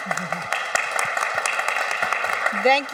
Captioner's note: applause